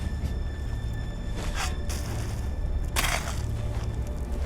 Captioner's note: dirt thud